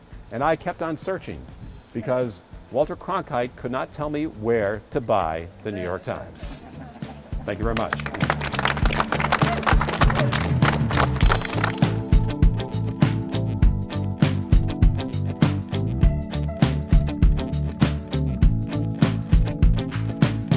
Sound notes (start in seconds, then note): 7.7 applause; 11.8 upbeat instrumental music